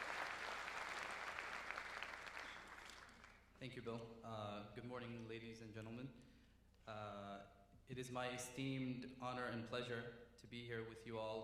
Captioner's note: cheering